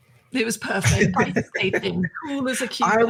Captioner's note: laughing